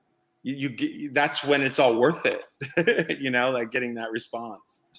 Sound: laughs

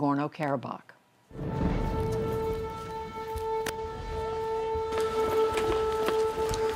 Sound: sirens blaring

